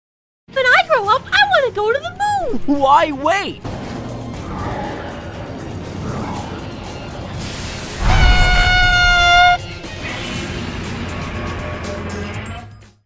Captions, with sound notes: When I grow up, I wanna go to the moon! Why wait? (Scream)